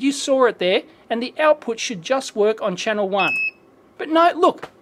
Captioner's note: beeps